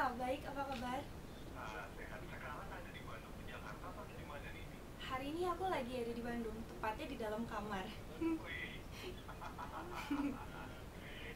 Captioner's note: laughing